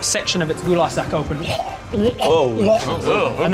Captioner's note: retching